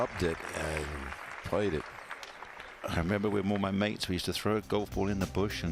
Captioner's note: applause